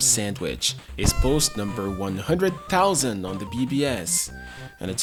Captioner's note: party noise-maker sound